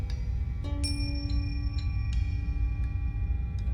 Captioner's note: bell rings